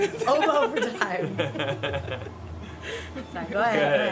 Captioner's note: laughter